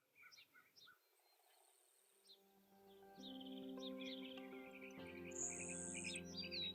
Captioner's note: birds singing; relaxing music